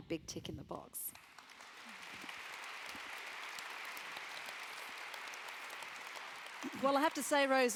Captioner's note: applause